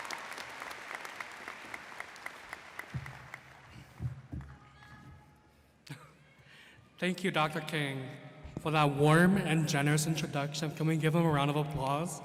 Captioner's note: applause